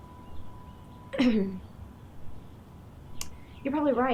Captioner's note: Gessica clearing throat